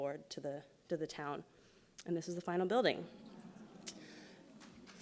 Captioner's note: applauds